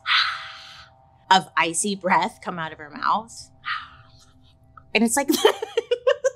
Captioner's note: exhales; exhales; laughs